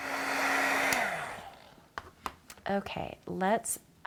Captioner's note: heat tool whirring